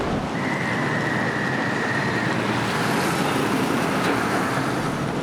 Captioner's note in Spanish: Sonido ambiente urbano